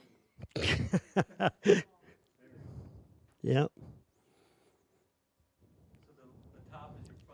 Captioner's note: laughing